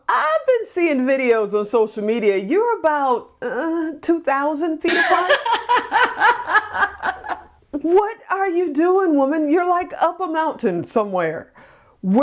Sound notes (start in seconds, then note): 4.8 laughs